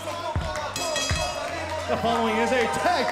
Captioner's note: bell ringing